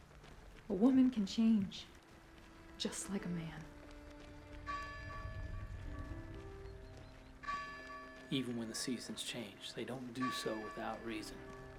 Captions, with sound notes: - A woman can change just like a man. (bell tolling) (melancholic music continues) - Even when the seasons change, they don't do so without reason.